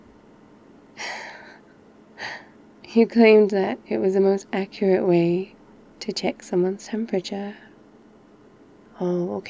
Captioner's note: laughs